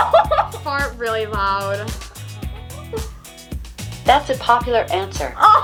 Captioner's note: laughs